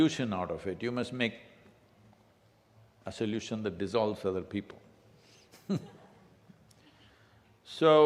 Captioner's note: laughs